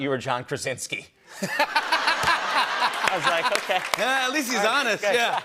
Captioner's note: laughter